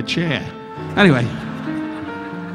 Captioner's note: audience laughing